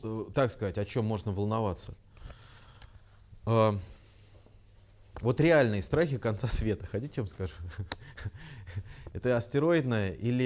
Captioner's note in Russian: смеется